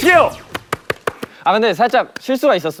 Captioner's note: clap clap clap